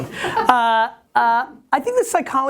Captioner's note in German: Lacht